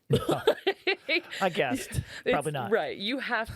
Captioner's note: laughing